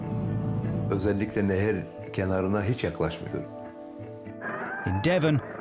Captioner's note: pensive music; speaks in foreign language